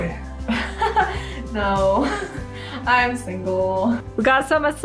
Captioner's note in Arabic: يضحك